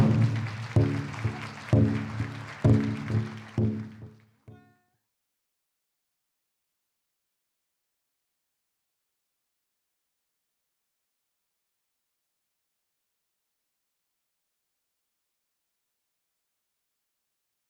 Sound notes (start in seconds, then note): 5.3 applause